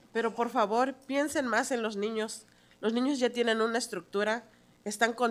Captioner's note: speaking in Spanish